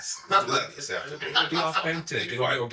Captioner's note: laughs